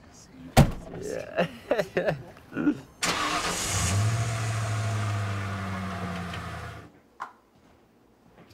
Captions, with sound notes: - This guy. - Yeah. (laughing) (engine starts)